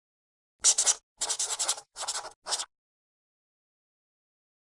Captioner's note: pencil scratching